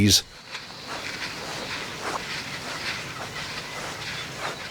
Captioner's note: surprisingly noisy footsteps on grass